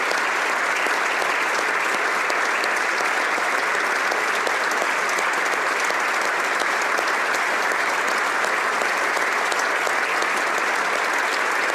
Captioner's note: applause